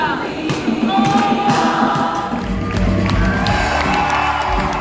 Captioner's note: music and applause